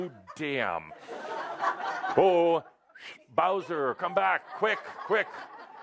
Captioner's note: laughter